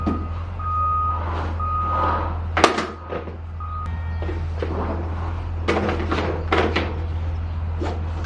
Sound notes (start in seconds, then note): 0.1 truck whirring and beeping; 1.4 seat rubbing